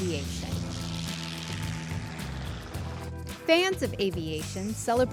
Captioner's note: plane engine